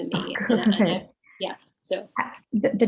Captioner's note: chuckles